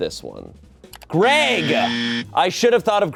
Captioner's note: buzzer blares